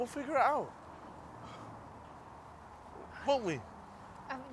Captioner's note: sighs